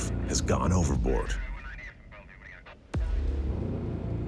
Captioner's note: muffled voice speaking on radio; dramatic music